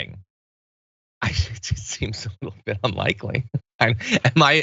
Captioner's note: laugh